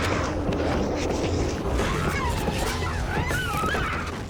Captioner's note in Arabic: صراخ